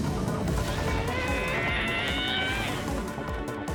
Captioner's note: Momo's groan